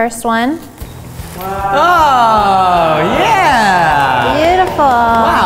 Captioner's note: sounds of amazement